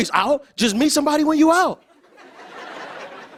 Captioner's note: laughter